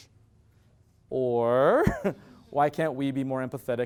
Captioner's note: laugh